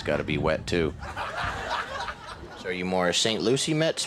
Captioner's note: audience laughs